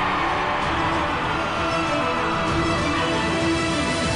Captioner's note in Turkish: Hücum sesleri